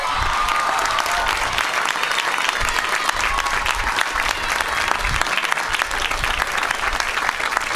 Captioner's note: applause